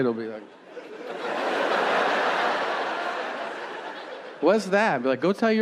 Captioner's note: audience laughing